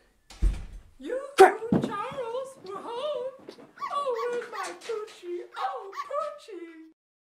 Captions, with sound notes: [Door slams] Yoo-hoo, Charles... -Crap! -we're home. [Small Dog yelps] Oh, where's my Pucci? Oh Pucci.